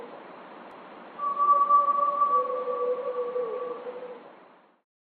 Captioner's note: creature continues vocalizing